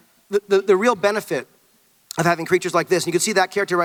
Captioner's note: none